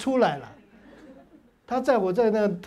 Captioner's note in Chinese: 哈哈哈